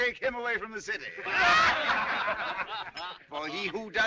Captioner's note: جمهور يضحك